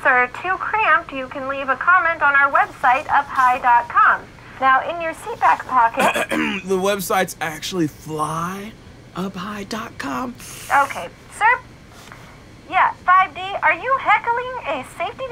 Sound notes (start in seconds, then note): 6.0 clears throat